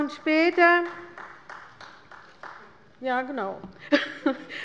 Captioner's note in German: Beifall der Abg